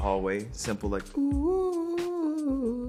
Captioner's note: imitating song melody